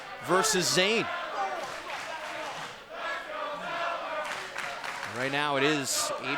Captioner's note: crowd chants "Let's go Balor"